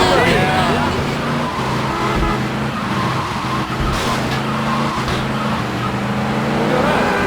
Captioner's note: engine revving